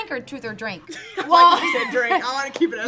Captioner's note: laughs